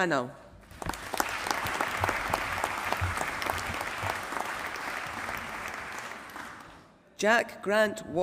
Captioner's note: applause